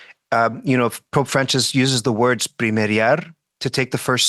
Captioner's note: speaks Spanish